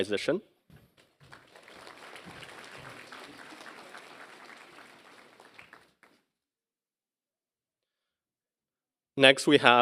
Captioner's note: applause